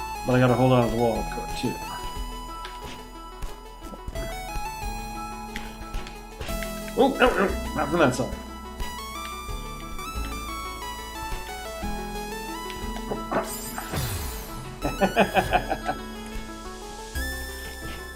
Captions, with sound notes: But I gotta hold on to the wall afterward too. Whoa, no no! Not from that side. Hup hup! [chuckles]